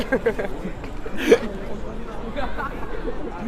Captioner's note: laughter